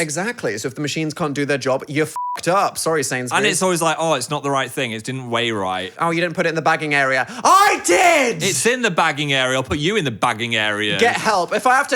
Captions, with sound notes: - Exactly, so if the machines can't do their job, you (beep) up. Sorry Sainsbury. - And it's always like, oh, it's not the right thing. It didn't weigh right. - Oh, you didn't put it in the bagging area. - I did. - It's in the bagging area. I'll put you in the bagging area. - Get help.